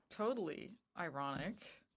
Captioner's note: speaking French